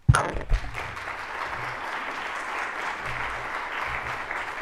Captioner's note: audience claps